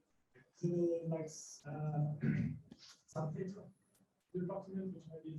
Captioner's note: faintly speaking